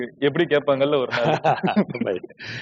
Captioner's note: laughs